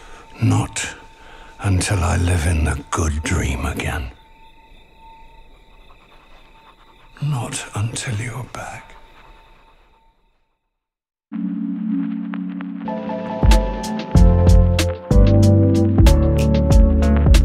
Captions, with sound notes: Not until I live in the good dream again. [pen scratching on paper] Not until you're back.